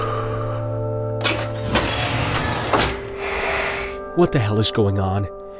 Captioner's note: deep breathing; metal sliding